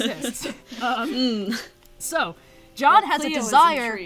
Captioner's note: laughs